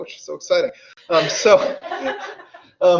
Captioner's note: audience laughs